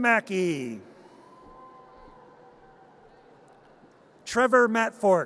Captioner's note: audience cheers